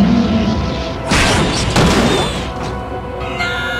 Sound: raaaawr; squeak; crash

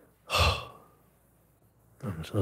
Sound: sighs

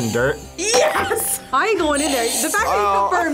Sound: buzzer rings; buzzer rings

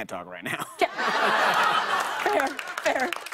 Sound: laughter

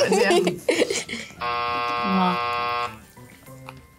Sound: buzzer rings

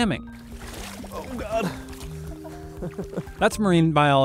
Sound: laughing

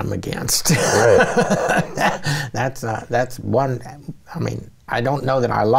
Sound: laughs

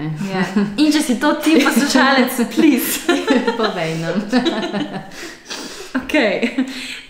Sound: laughs

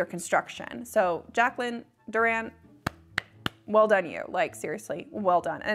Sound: claps

